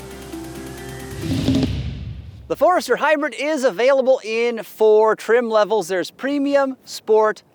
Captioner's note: electronic sound